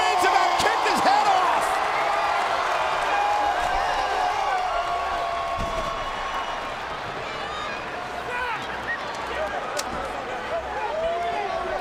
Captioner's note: applause